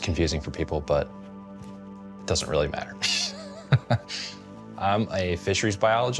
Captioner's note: laughs